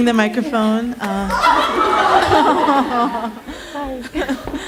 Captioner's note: laughing